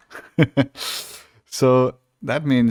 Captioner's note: chuckles